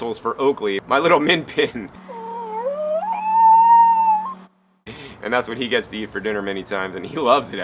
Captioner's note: dog howling